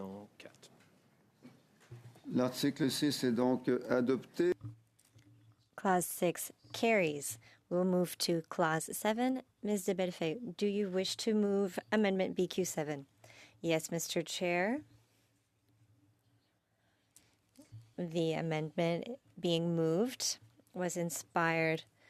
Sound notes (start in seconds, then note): 6.3 speaking French